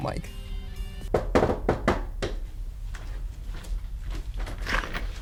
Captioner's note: door knocking